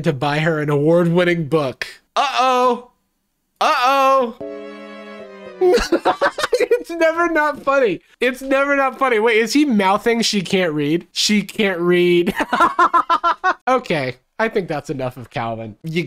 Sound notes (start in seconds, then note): 5.6 laughs